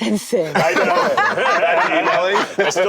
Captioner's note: laughter